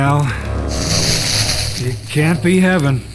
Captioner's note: sparks crackle